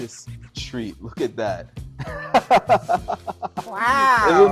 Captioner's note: laughs